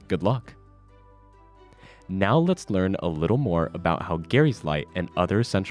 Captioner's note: none